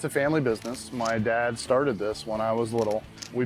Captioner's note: camera shuttering